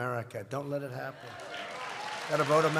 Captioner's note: applause